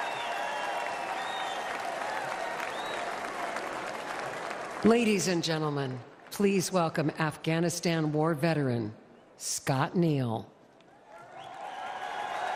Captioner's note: cheers and applause